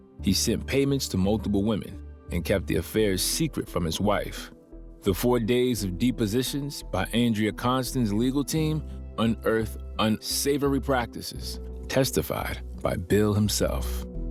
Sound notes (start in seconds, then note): none